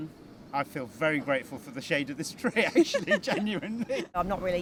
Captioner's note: laughing